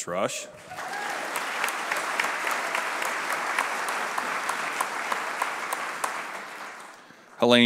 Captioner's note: applause